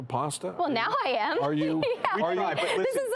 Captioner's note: laughs